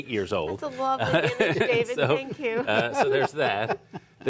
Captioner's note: laughter; laughter